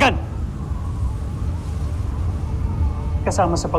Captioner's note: wind howling; pensive music playing